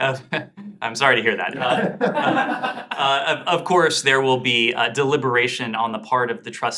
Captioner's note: laughter